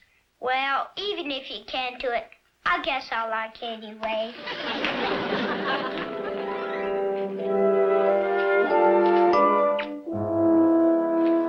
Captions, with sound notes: - Well, even if he can't do it, I guess I'll like ya anyway. (audience laughs) (cheerful music)